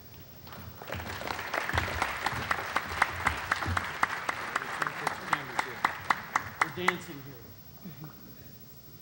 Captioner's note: applause